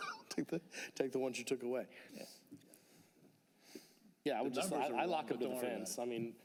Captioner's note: laughter